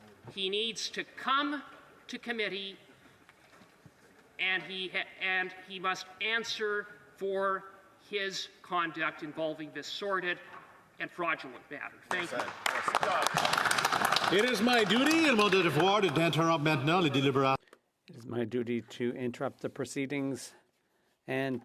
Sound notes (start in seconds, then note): 17.1 some Applause; 20.8 speaking French